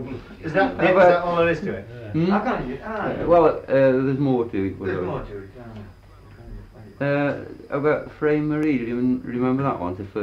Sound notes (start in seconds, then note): none